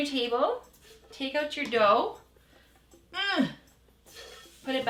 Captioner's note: grunts